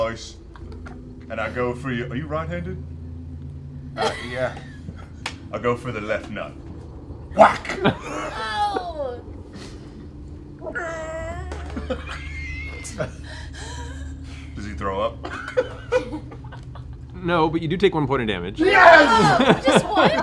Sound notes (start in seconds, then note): 7.1 whack; 8.6 groans